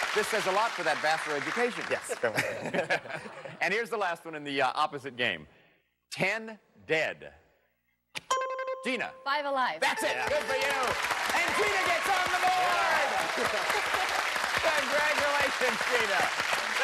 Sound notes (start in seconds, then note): 2.1 laughter; 8.2 dings; 13.5 applause